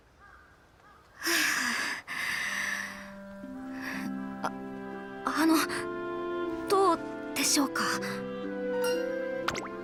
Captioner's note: exhale